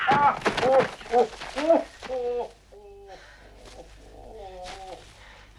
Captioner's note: Hundra shouts; Torente grunts; Torente whimpering